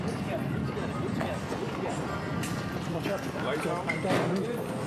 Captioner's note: chatter